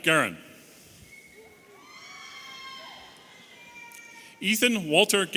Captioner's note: audience cheering